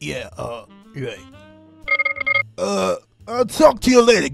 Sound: spear noise over a phone that i thought was very funny

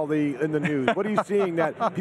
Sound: laughing

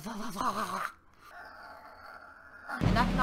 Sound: grunting

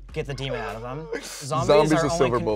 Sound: laughs

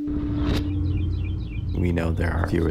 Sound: birds singing

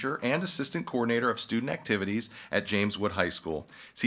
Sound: none

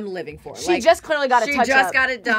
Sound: chuckles

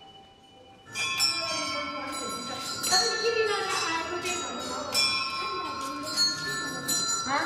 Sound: bells chiming

